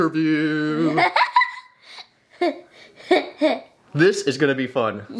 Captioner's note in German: Mädchen lacht